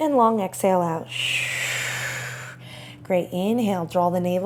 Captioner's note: loudly exhales